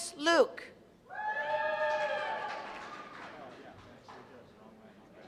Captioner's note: cheers and applause